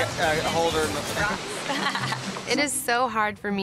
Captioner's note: laughs